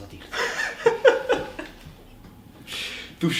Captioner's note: laughter